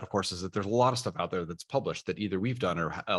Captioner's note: none